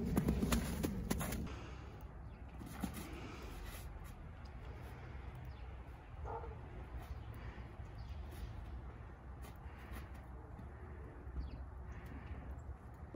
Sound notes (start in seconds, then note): 6.2 A dog barking